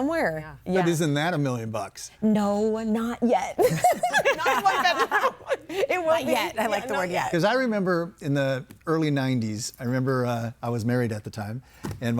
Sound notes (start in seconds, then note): 3.6 laughs; 3.7 everybody laughing